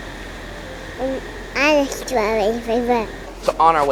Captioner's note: Princess chattering